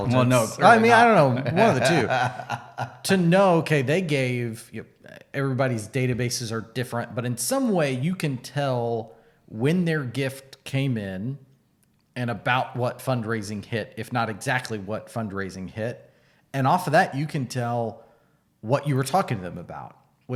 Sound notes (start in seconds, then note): 0.2 laughing